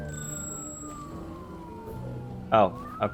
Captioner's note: siren wailing